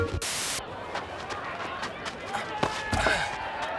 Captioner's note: crowd shouting, cheering